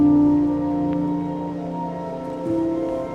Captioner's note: wind sounds